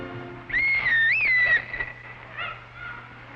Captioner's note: whistle blows